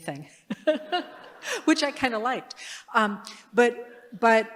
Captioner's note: laughter